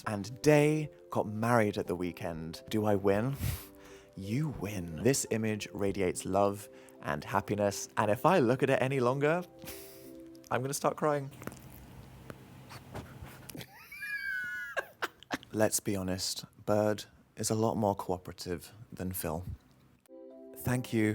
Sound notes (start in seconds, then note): 12.6 bird snuffling; 13.6 wheezing laughter; 20.0 calming music